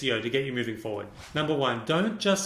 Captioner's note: air whooshing